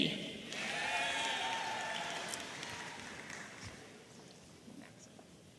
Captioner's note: audience applauding and cheering